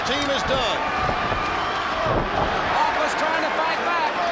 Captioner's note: crowd chatter